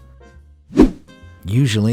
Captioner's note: whoosh